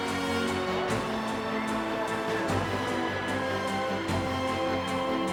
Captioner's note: dramatic music; siren blaring